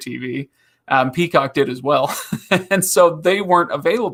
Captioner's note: laughing